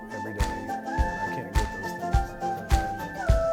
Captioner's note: applauding